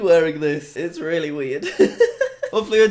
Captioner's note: laughs